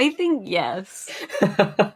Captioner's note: laughs